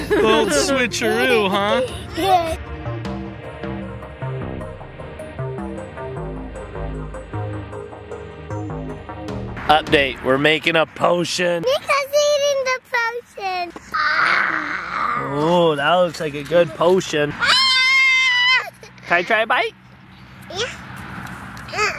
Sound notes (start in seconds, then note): 0.0 laughs; 17.3 yells